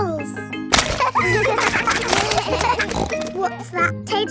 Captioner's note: snorts; kids laughing